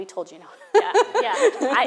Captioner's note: laughs